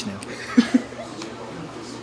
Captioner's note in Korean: 웃음